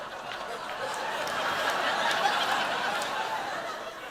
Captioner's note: laughter